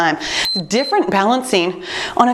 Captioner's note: timer beeps